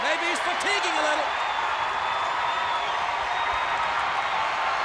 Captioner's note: audience cheers